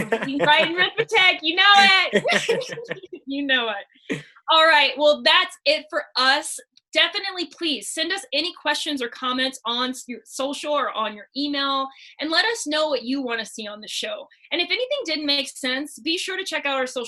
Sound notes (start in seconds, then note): 1.7 both laugh